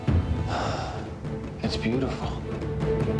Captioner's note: sighs